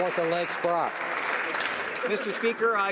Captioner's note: some Applause